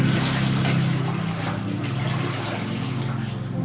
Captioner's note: water splashing